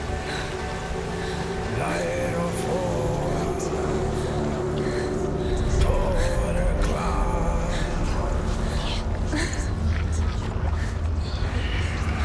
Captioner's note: indistinct chatter